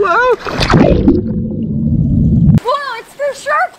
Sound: splashing and gurgling

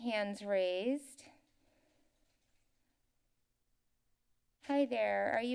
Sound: silence

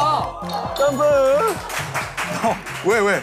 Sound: laughter from the next team

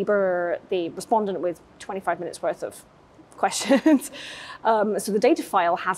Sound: chuckles

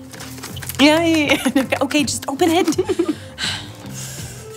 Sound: rattling inside box; Claire laughs; Ruby sighs

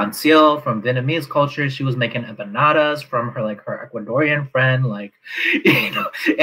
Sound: laughs

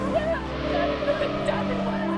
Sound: brakes screeching

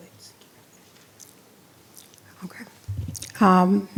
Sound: speaking faintly

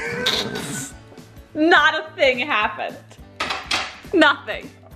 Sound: laughs

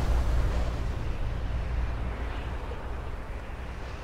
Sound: wind howling

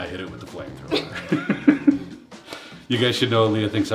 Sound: laugh

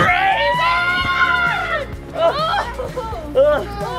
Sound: screaming

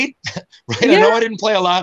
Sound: chuckles

